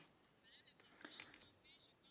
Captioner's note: speaking French